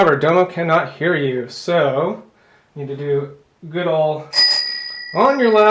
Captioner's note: ring ring!